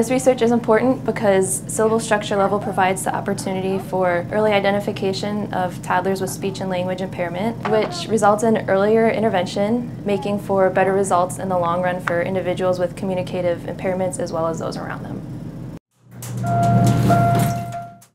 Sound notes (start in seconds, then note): 16.2 elevator ding